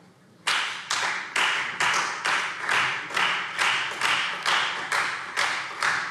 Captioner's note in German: Beifall Freie Demokraten